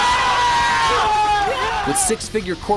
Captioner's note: cheering